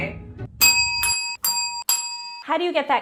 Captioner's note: bells dinging